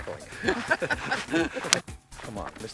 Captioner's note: laughing